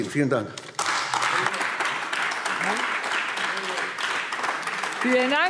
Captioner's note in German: Beifall AfD